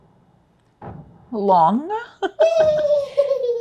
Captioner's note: laughs